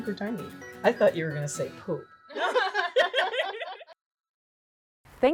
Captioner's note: all laugh